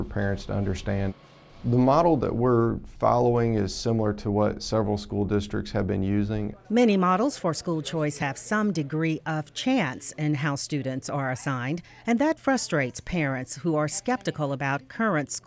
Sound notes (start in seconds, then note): 5.3 voiceover